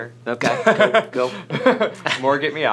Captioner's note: laughter